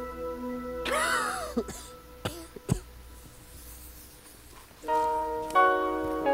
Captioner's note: Ichabod starts to cough